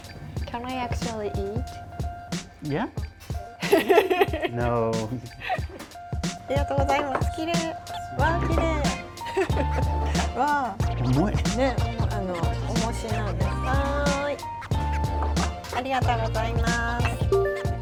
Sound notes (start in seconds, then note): 3.6 laughs